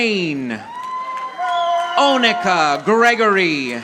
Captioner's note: audience applauding